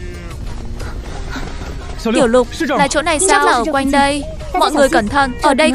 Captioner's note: thở hổn hển